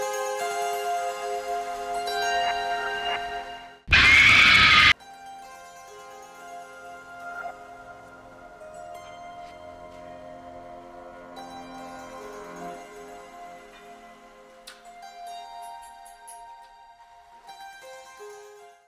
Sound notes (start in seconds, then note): 0.2 ominous music; 3.8 screams